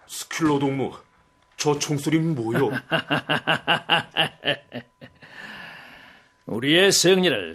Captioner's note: laughs